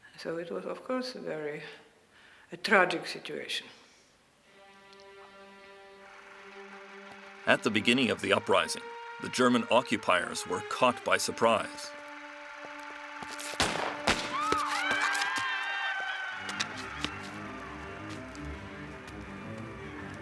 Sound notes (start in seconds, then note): 4.9 dramatic music; 13.5 gun fires; 15.0 crowd screams; 15.5 suspenseful music